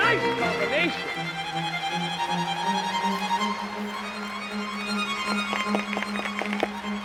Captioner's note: dramatic music; audience applauding